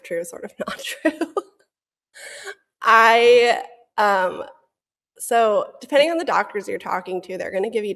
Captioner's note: laughs